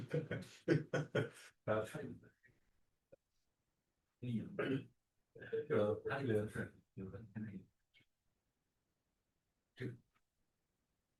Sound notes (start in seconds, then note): 0.6 laughter; 1.7 speaking Chinese; 4.4 speaking Chinese